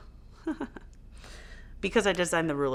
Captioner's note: chuckling